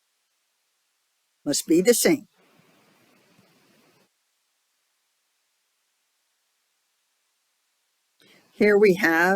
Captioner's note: 5-second silence; 6-second silence